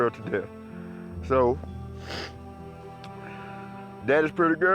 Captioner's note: sniffs